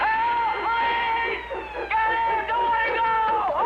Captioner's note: recorded Sirens And Dogs Barking